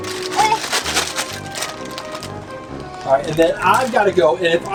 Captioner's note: plastic rustles